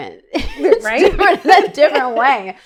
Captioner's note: laughing